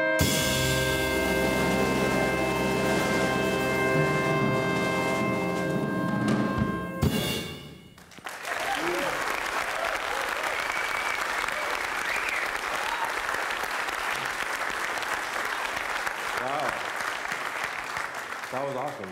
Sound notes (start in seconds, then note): 8.5 cheering; 13.5 applause